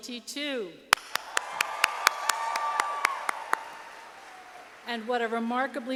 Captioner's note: audience applauding